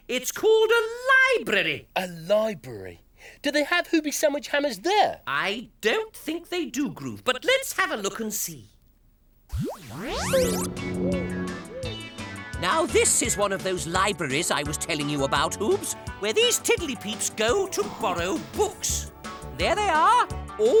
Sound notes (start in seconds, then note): 9.9 whirrs; 10.1 upbeat music